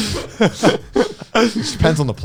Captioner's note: men laughs